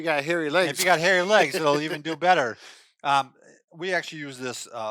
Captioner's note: laughing